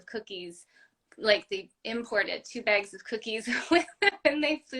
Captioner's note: laugh